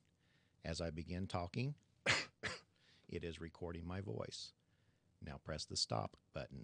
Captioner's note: coughs